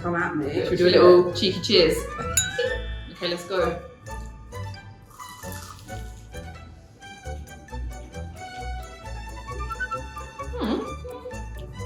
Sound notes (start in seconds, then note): 2.2 bouncy music; 2.3 glass clinks; 5.2 pastry crunches